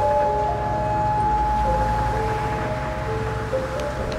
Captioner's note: wind blowing; fire crackling